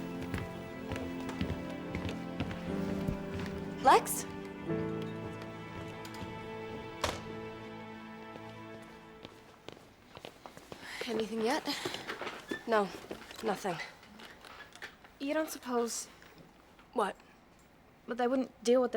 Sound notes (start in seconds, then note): 0.0 gentle music; 0.0 footsteps receding; 3.2 gentle music; 5.3 footsteps receding; 5.3 gentle music; 8.6 footsteps approaching